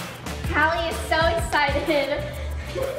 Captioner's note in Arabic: يضحك